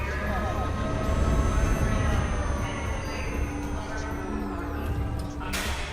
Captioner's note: constant whirring of alarm siren in the distance